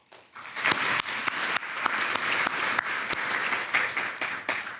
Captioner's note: everyone applauds